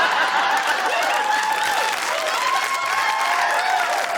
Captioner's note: laughter; cheering, applause